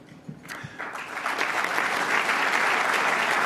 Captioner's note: applause